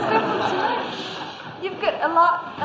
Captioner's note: laughter